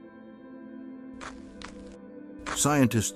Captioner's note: footsteps